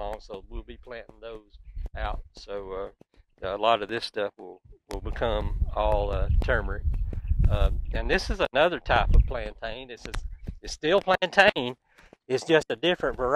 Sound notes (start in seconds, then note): 4.7 wind blows; 9.0 birds twittering